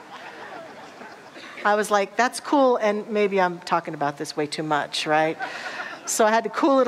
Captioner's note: audience laughter; audience laughter